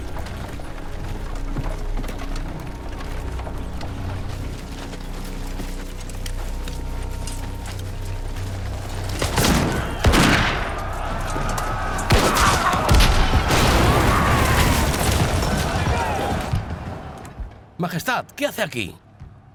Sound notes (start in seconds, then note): 9.2 guns firing; 12.1 cannon blasts